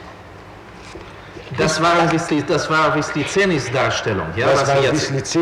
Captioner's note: in german